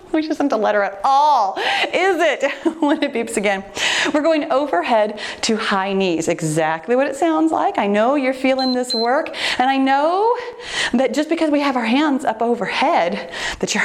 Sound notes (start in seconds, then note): 2.4 laughs; 8.5 timer beeps